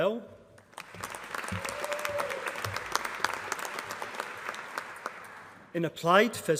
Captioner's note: applause